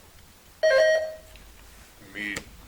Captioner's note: buzzer chimes